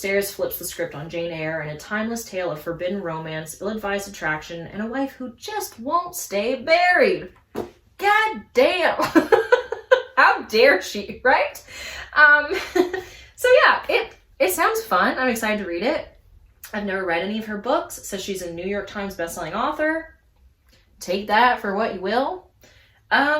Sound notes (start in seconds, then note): 9.1 laughs